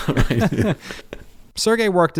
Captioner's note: laughing